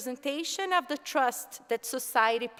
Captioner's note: none